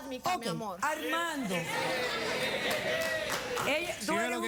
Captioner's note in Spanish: risas